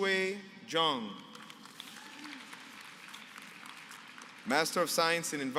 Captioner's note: applause